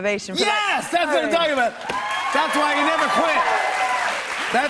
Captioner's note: cheers and applause